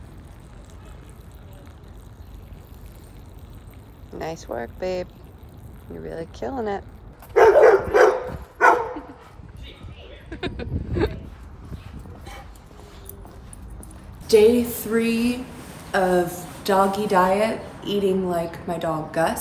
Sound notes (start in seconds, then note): 7.3 Gus barking; 10.2 laughing